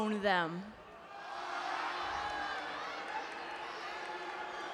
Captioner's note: crowd jeering